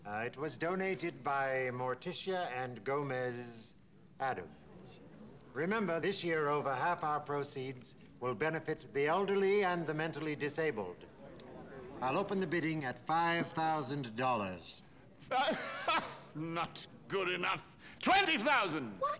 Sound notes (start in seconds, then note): 15.3 laughs